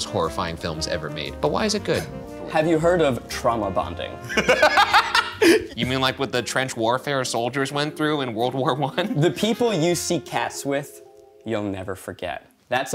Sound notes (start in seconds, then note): 4.2 laughing